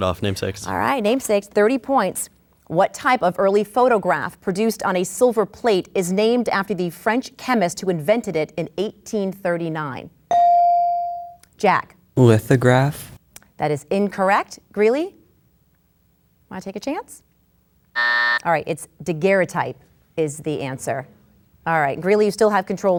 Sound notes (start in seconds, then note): 10.3 bell dings; 17.9 buzzer sounds